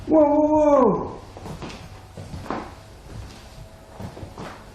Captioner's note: heartbeats